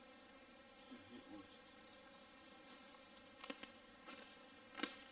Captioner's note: twigs snapping